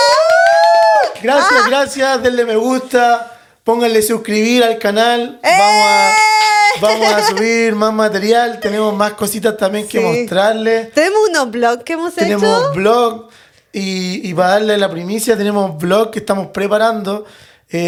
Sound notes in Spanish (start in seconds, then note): 5.5 lloros; 5.8 grito